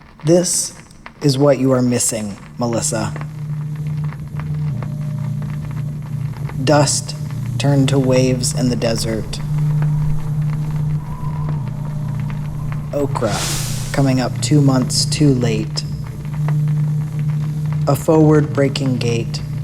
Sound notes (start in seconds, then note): 4.0 vaguely melodic drone sound track throughout; 9.5 sound of dry desert wind; 18.5 sound of gate creaking open